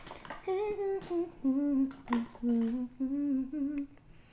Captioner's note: humming a song